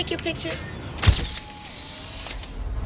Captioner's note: camera flash